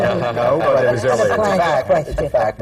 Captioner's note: laughter